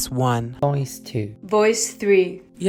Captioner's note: voiceover